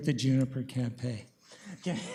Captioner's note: laughs